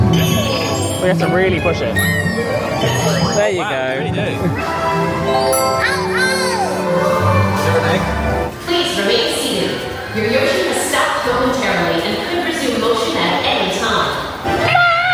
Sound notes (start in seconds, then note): 0.2 button chimes; 5.2 ride chimes